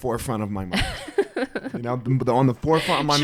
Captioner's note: laughs